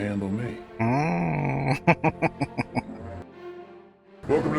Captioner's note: chuckling